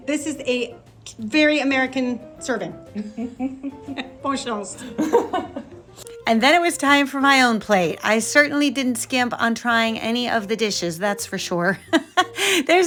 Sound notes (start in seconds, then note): 3.0 laughs; 4.4 speaking French; 4.9 nephew laughing; 11.8 laughs